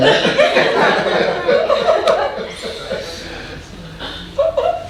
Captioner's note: audience laughing